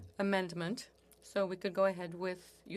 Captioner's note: speaking French